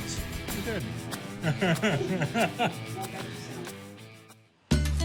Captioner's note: laughs